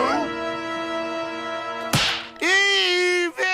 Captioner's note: slapping